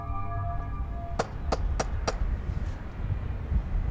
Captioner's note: door knocking